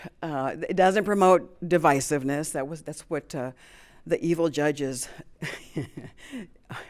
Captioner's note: chuckles